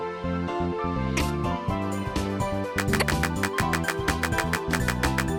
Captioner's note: video game noises